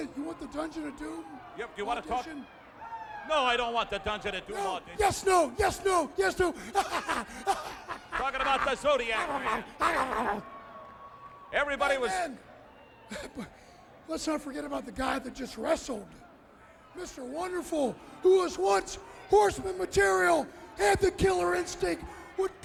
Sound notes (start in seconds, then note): 7.6 laughs